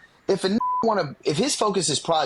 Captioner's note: beep